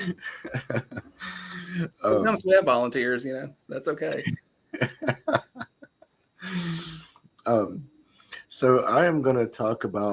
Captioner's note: laughter